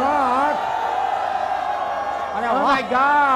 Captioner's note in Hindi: चियरिंग